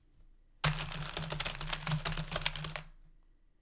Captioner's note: keyboard mashing intensifies